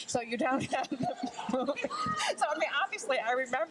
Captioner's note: laughs with crowd